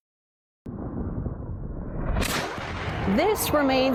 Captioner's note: jet roaring